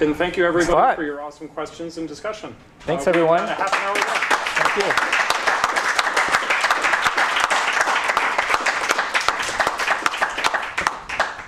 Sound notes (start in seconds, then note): 2.9 applause